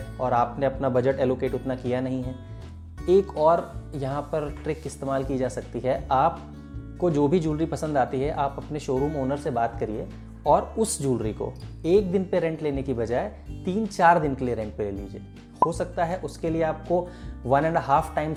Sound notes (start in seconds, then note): 15.6 pop up sound